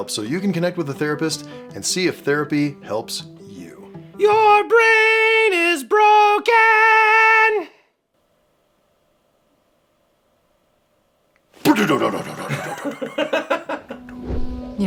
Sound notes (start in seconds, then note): 8.3 awkward silence